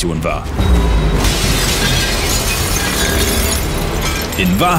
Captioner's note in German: Glas splittert